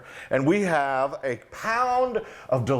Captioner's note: none